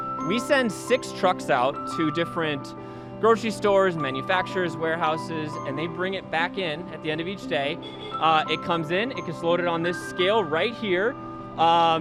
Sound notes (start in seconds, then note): 7.8 forklift honks